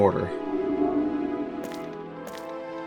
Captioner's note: linking sound